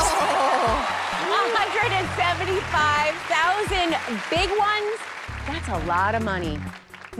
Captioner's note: chuckling